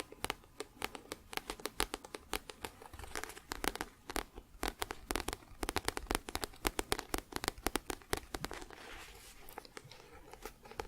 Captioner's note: tapping on book